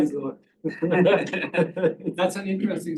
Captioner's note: laughter